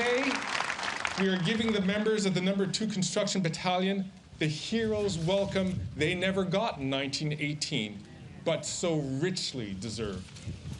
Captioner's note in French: Voix en Anglais